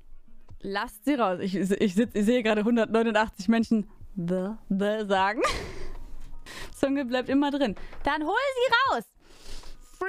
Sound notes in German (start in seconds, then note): 5.4 lachen